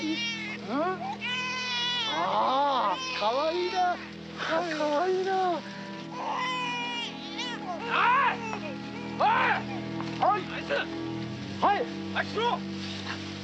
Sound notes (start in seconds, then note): 0.1 speaking Japanese; 0.7 baby crying; 8.4 shouting in Japanese